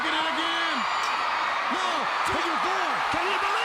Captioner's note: crowd cheering